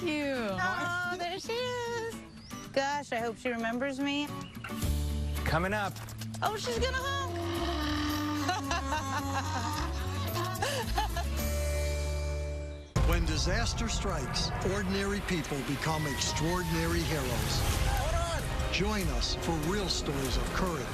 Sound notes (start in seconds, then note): 6.5 donkey braying; 7.3 laughing